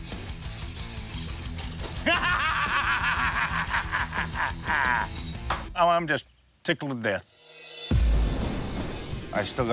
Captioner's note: laughs